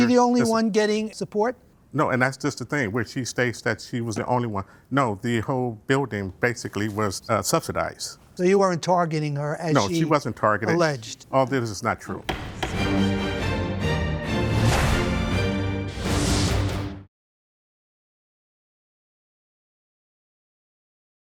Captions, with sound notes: - Was she the only one getting support? - No, and that's just the thing, where she states that she was the only one. No, the whole building, basically, was subsidized. - So, you weren't targeting her as she alleged? - No, she wasn't targeted. All this is not true. (gavel thumping) (triumphant music)